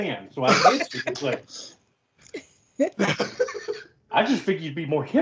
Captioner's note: laugh